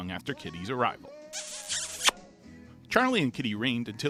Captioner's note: kissing